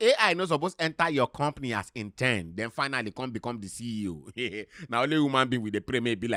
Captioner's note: chuckles